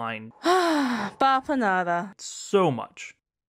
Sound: sigh

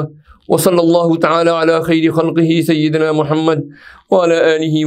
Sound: arabic

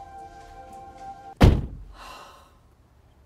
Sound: music swells; car door slams; sigh

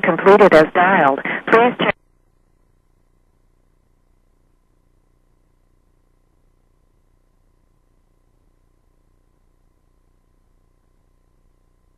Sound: no speaking

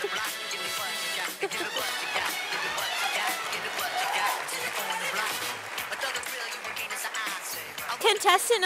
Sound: sound of applause from audience

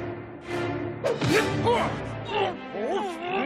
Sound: grunting

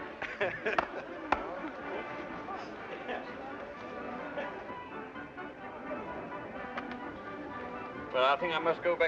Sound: crowd chatter

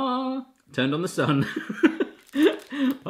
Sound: laughs

